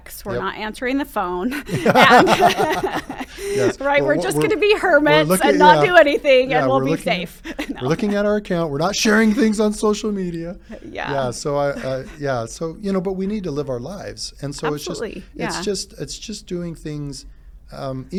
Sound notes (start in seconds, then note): 1.5 both laughing